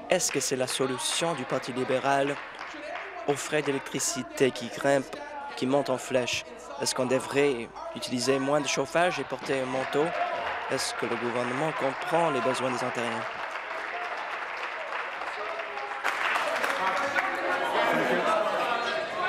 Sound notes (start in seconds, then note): 14.0 applause